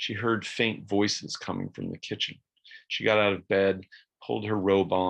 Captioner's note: none